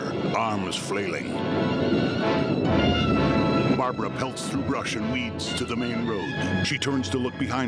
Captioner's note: thunder crashing